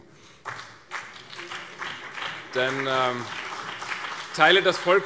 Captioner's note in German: Beifall CDU und BÜNDNIS 90/DIE GRÜNEN